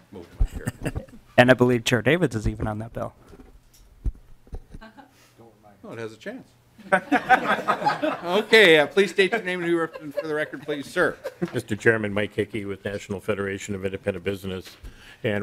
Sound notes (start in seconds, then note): 9.1 laughter